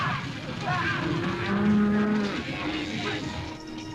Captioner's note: stampede - cattle mooing